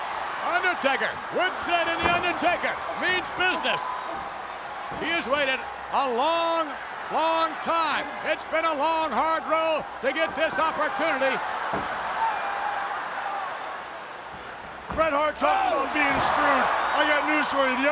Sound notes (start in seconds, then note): 11.9 applause